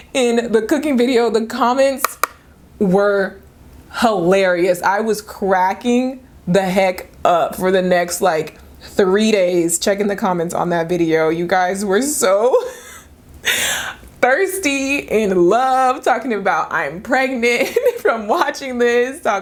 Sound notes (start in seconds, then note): 12.6 laughing